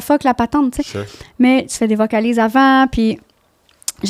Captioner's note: in french